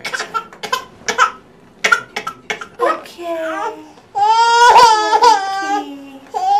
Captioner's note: baby crying